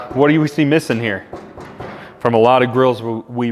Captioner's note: side shell clanging